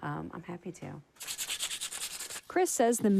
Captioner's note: sandpaper scrubbing